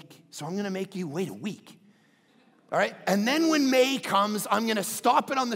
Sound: crowd laughing

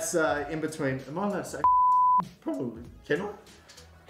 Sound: beep

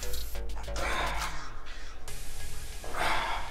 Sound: exhales

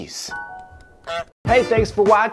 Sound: goose honk

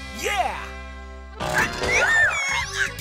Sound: squeaking

